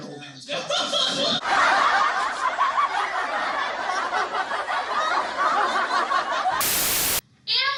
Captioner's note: crowd Laughter